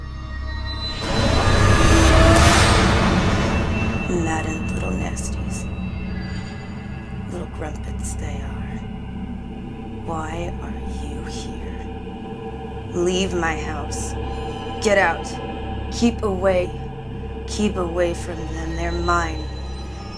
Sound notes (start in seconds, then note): 0.1 dramatic music; 4.0 speaking in foreign language